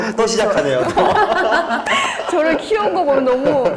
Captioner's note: laughing